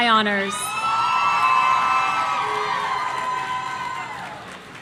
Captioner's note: audience cheering